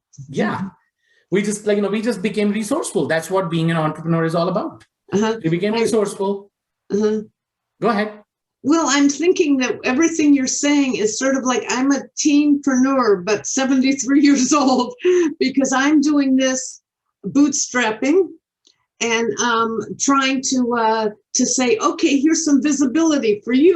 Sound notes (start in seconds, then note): 14.6 chuckles